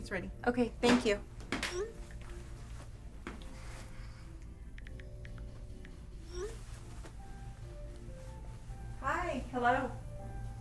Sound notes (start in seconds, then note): 2.3 notification rings; 4.8 phone clicking